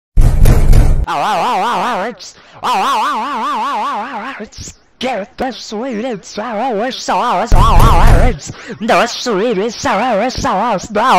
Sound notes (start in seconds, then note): 0.2 banging sound